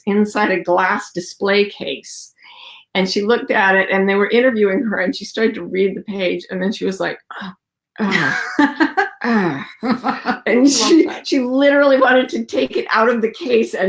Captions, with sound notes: inside a glass display case, and she looked at it and they were interviewing her and she started to read the page, and then she was like, (groans) She literally wanted to take it out of the case